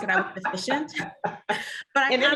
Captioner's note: laughs